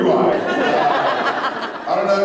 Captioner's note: laughs